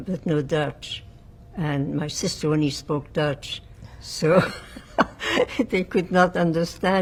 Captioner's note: laughing